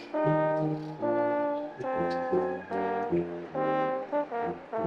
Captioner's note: attendees cheering